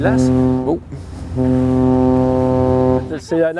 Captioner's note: ship siren noise